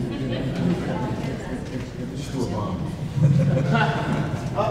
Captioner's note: audience laughs